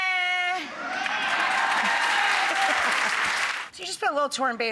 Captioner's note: people cheering